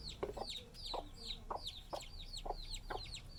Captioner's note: chicks chirping